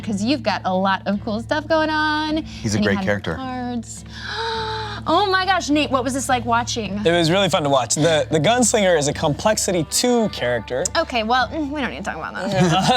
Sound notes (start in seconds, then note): 4.1 gasps; 12.4 laughs